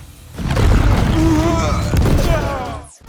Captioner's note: bang; grunts